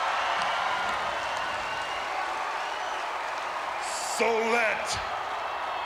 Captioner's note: applause